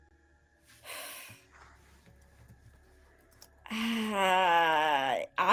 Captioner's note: sighs